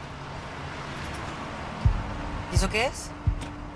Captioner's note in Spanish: Ruido de un vehículo